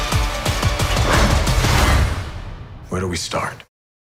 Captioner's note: dramatic music; shield whooshing